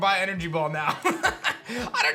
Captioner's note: laughs